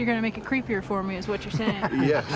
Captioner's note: laughter